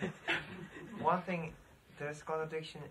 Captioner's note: laughs